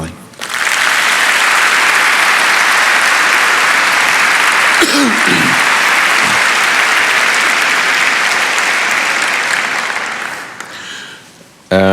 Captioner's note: applause